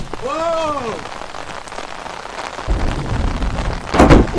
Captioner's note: rain falling